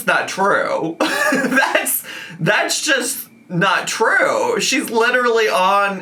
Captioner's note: laughing